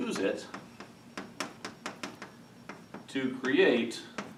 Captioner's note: chalk tapping